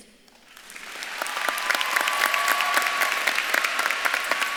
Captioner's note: audience claps and cheers